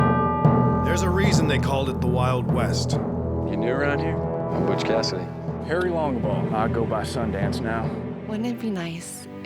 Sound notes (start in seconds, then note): 2.8 bell tolls